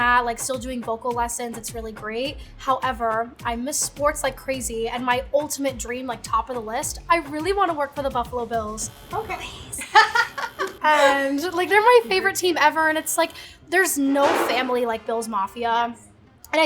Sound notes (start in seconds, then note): 8.6 buzzer buzzing; 9.7 laughing